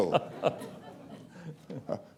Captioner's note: laughter